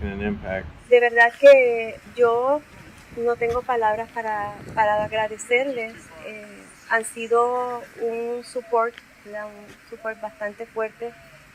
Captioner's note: non-english speech